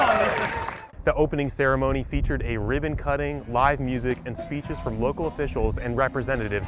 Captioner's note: cheering